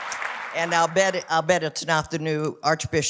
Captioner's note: applause